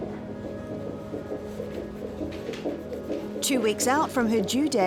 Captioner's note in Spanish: latidos de corazón